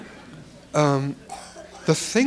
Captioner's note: laughter